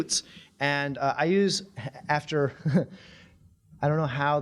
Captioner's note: chuckling